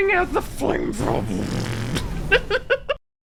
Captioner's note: burning sounds